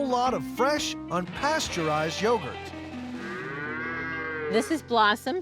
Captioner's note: cow mooing